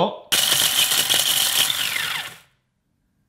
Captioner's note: whirring